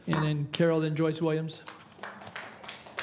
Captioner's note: some Applause